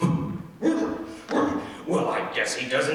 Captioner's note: blusters